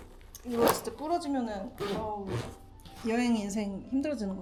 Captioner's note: zipper